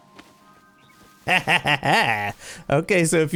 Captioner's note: laughter